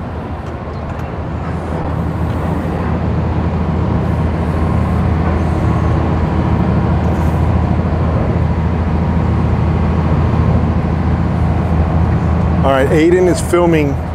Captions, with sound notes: (boat roars) All right Aiden is filming